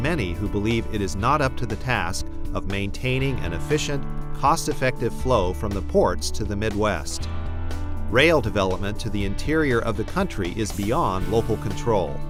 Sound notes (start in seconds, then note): none